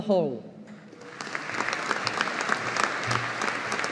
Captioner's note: audience applauding